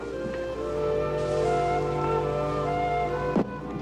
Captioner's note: food Sizzling